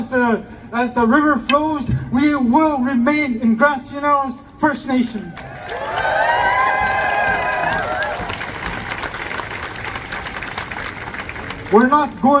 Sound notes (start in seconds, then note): 5.4 applause